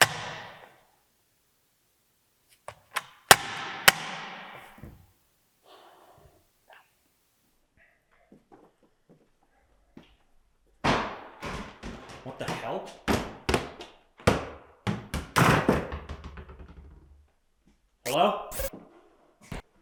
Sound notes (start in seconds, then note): 0.1 phone thuds; 3.3 phone thudding; 6.0 Jacob sighs; 10.8 ball thudding